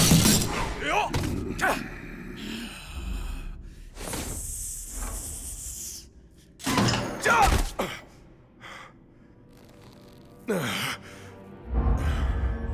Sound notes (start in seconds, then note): 0.8 grunting; 6.7 grunting